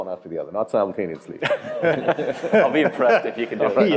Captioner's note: laugh